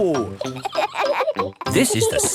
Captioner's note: kids laughing